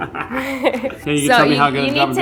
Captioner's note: both laughing